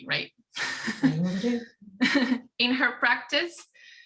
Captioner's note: laughing